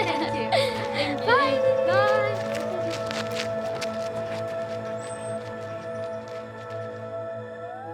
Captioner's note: giggling